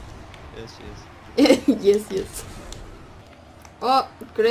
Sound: laughs

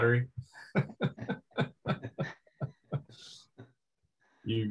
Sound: laughs

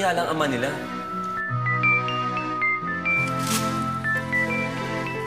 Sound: phone ringing

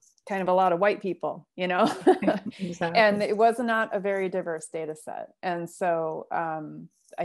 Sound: laughter

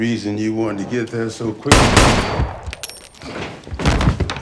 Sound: gun firing; body thuds

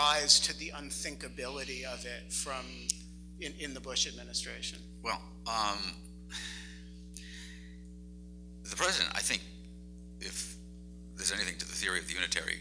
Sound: sighs

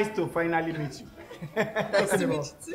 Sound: laughs

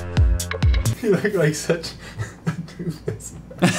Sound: laughing

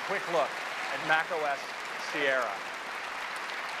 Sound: applause

